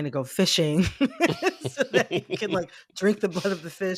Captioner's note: laughter